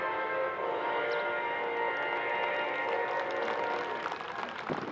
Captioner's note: applause